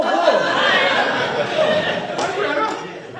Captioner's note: people laughing